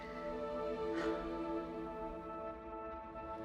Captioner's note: Charlotte sighs; crickets chirping; gentle music